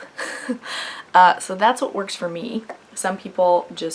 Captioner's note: laughs